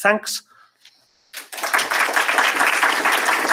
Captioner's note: applause